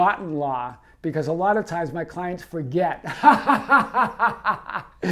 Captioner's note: laughing